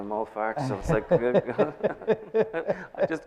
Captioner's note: laughing